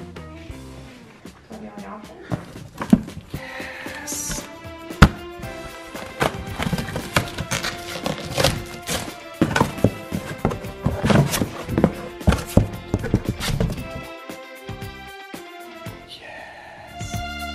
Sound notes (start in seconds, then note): 5.5 happy music; 9.0 cardboard flapping